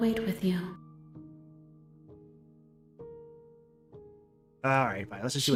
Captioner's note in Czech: žádný zvuk